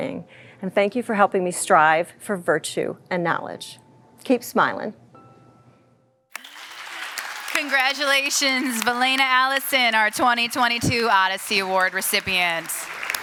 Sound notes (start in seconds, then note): 6.3 applause